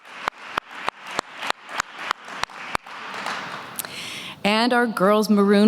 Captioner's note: applause